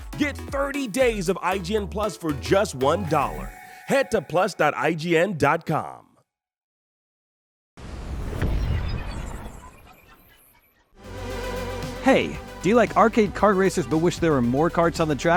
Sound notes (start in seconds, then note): 7.9 electronic whooshing